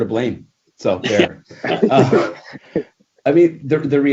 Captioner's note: laughing